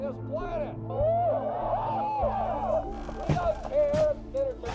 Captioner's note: audience shouting